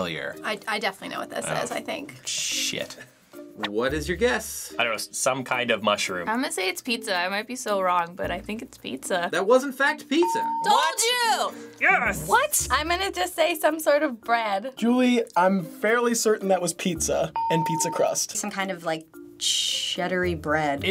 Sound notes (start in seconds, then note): 10.6 ding; 17.5 ding